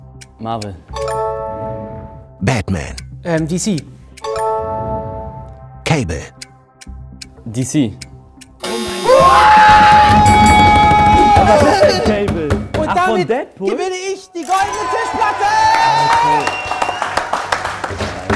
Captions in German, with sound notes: Marvel. Ähm, DC. DC. (Freudiger Schrei, Klingeln) Was ist denn Cable? Und damit gewinne ich die goldene Tischplatte. (Jubel, Pfiffe)